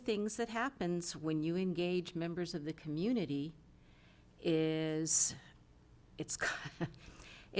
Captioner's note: chuckling